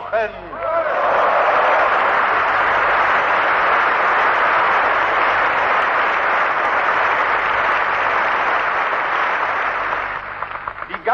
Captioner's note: applause